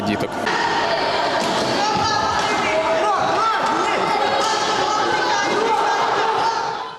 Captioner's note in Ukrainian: вигуки дітей